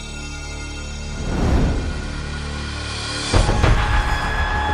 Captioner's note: whooshing; dramatic music